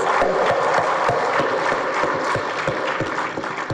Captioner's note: audience claps